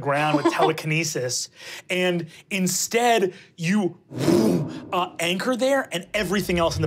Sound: whooshes

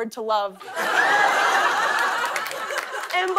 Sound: laughter and applause

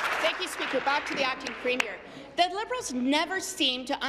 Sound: applause

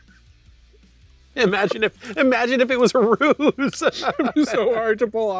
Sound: both laughing; laughs

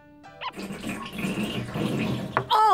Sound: gurgling

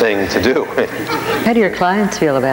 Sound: laughing with audience

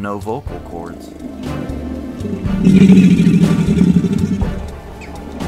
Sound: alligator bellowing

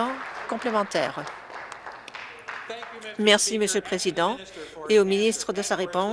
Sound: applause

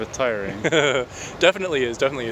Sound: chuckles

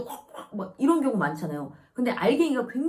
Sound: coughing because of the powder

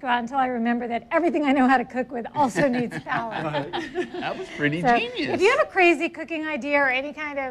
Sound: laughs

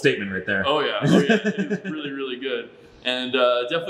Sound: laughs

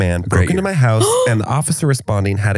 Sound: gasps

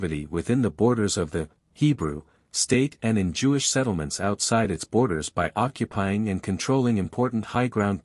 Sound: Hebrew

